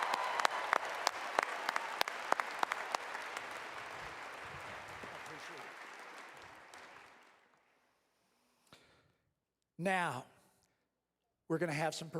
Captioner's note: applause